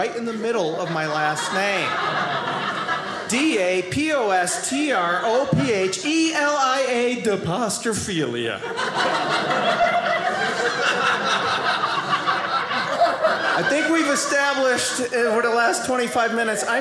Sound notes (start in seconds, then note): 8.5 audience laughing